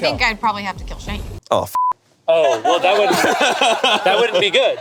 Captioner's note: beep; group laughing